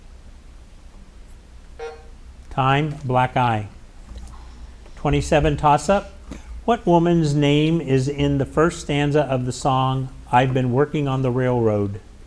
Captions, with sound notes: (timer buzzing) Time. Black eye. 27, toss-up. What woman's name is in the first stanza of the song, "I've Been Working on the Railroad?"